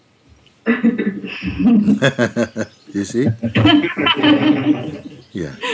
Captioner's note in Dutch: gelach